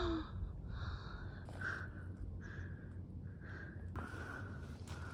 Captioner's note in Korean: 숨소리 ㅈㅅ